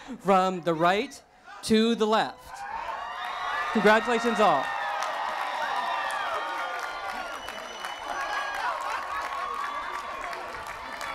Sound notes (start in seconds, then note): 4.6 cheering